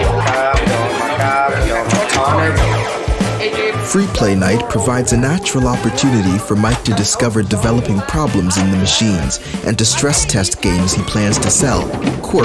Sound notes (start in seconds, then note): 1.9 flippers clicking, electronic sounds; 2.6 people chattering